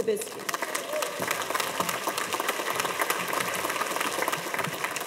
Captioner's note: audience applauding